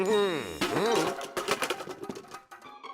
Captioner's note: clattering